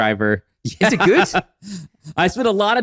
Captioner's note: laughs